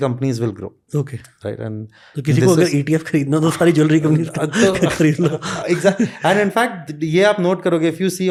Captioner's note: chuckles